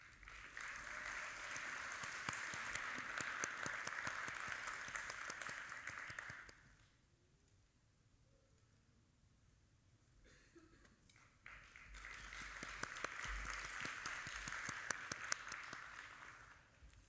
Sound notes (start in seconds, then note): 0.0 audience applauding; 11.4 audience applauding